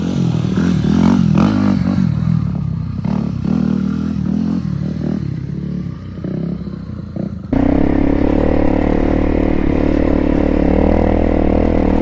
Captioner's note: engines